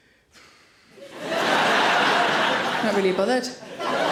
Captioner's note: audience laughs